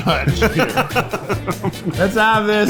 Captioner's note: laughs